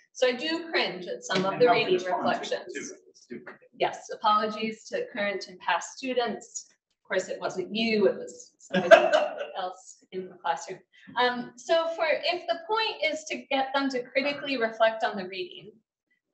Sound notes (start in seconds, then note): 8.7 man laughing